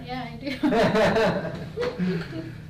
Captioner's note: patient laughs; laughs